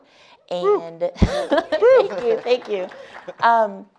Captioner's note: laughing